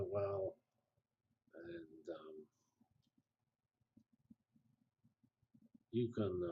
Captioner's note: pause